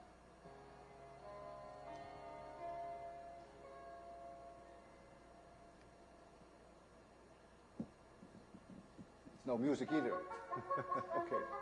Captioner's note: music continues but ends; chuckles